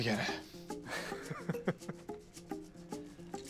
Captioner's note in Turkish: Gülme sesi